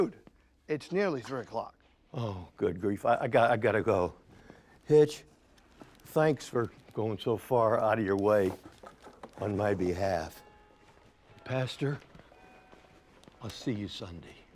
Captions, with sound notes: - But, dude, it's nearly three o'clock. - Oh, good grief, I gotta go. Hitch, thanks for going so far out of your way on my behalf. (church bells chiming) Pastor, I'll see you Sunday.